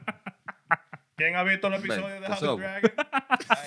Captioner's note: speaking Spanish